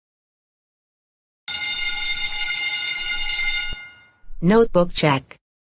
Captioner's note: bell Rings